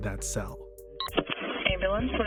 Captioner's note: phone beeping